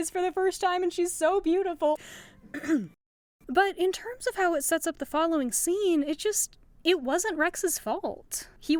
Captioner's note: ahem